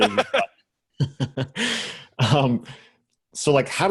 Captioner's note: laughs